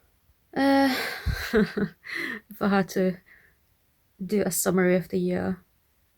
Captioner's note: laughs